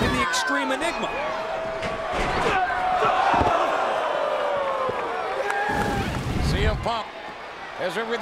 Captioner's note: applause